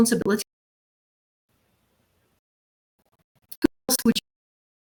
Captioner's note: audio out